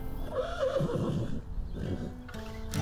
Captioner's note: horse neighs